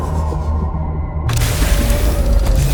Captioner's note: explosion